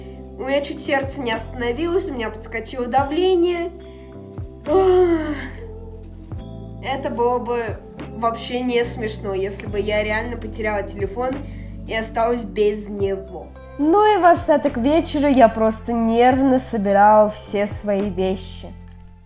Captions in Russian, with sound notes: У меня чуть сердце не остановилось, у меня подскочило давление. [тяжёлый вздох] Это было бы вообще не смешно, если бы я реально потеряла телефон и осталась без него. Ну и в остаток вечера я просто нервно собирала все свои вещи.